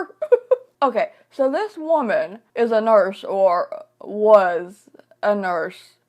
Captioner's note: laughing